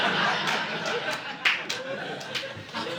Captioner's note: audience laughing